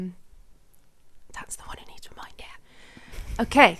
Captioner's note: whispering